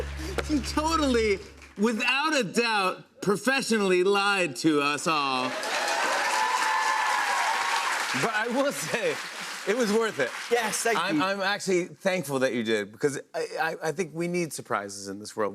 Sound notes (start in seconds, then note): 0.0 sad tuba; 5.3 cheers and applause